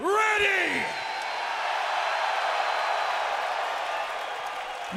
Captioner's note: crowd cheers